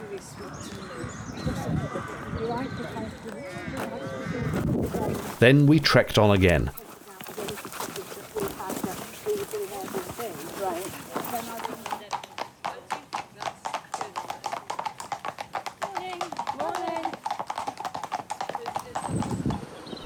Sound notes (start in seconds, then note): 0.0 loud birdsong plus human chatter; 6.8 footsteps with hint of dog panting; 12.0 clippy clopping